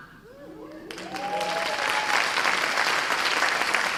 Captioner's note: cheers and applause